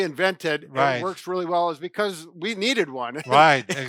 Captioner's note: laughing